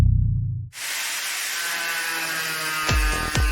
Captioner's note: saw buzzing